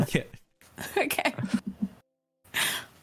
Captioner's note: laugh